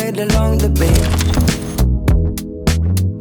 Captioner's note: camera shutter clicks